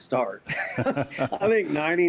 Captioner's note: both laugh